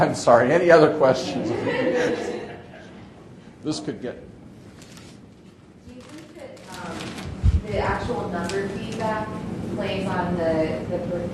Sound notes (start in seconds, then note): 1.3 audience laughing